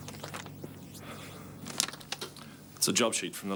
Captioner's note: Dave sighs